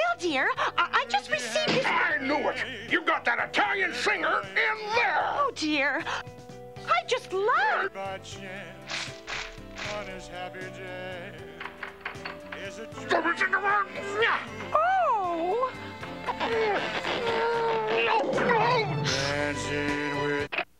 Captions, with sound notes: Well, dear, I just received... I knew it! You've got that Italian singer in there! Oh, dear. I just love... (GRUNTING) (EXCLAIMS)